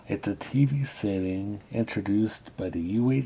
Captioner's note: none